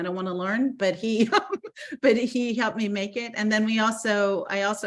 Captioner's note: laughing